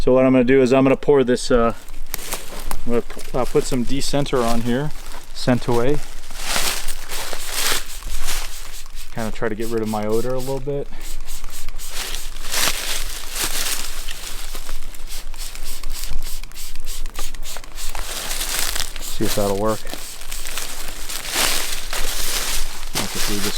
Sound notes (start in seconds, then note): 7.1 leaves rustling; 7.1 spray can spouting; 11.6 leaves rustling; 11.6 spray can spouting; 20.5 leaves rustling